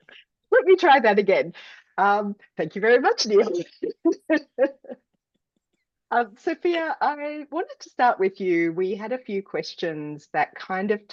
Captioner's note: laughs